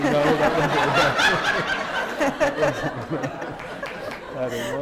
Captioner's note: laughter